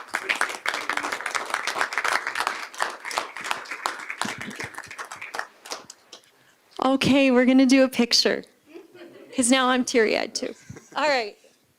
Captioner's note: applause